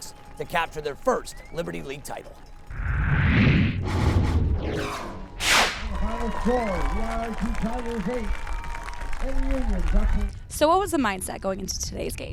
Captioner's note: cheering